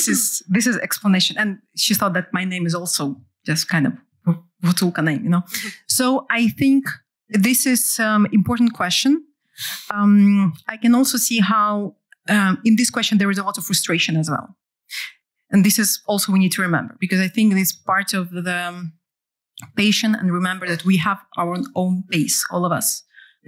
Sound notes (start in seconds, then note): 4.2 non-english